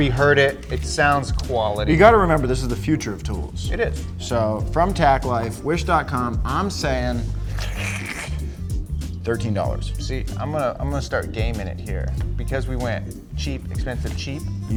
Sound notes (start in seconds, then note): none